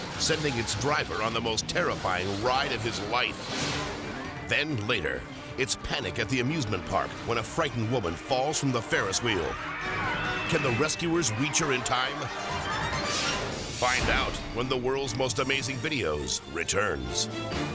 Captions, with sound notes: sending its driver on the most terrifying ride of his life. (air whooshes) Then later, it's panic at the amusement park when a frightened woman falls from the Ferris wheel. (bystanders scream) Can the rescuers reach her in time? (air whooshes) Find out when the "World's Most Amazing Videos" returns.